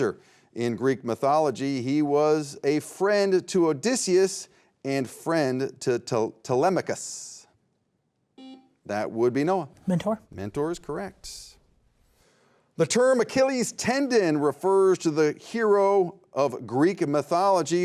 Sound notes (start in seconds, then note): 8.4 beep